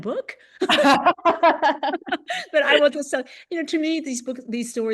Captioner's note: laughter